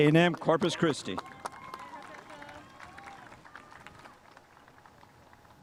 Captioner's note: spectators applauding